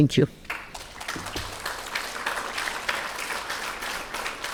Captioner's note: attendees clapping